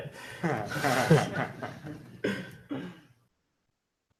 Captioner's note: laughter